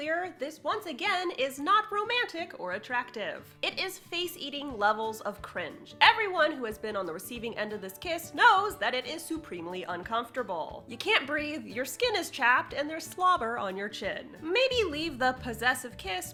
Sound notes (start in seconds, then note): none